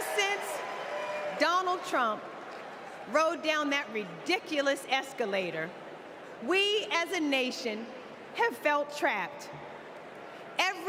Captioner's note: cheers and applause